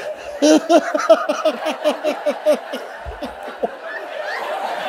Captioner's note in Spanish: la risa continúa